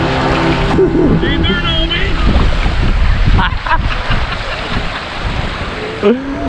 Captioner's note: laughs